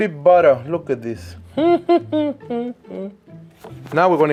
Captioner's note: humming